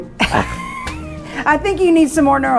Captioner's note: laughing